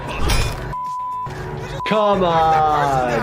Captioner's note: beep